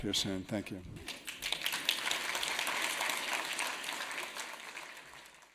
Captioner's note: audience applauding